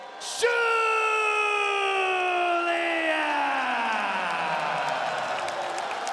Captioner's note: crowd cheers